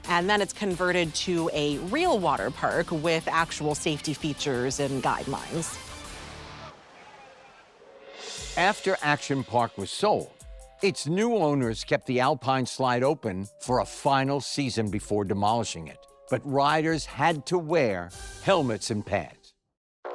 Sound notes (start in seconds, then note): 5.6 water splashing; 6.6 park-goers chattering